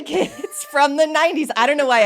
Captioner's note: both laughing